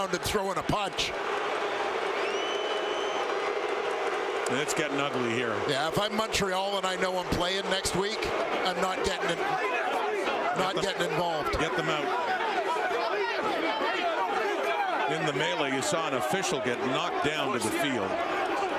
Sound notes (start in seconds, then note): 6.4 crowd booing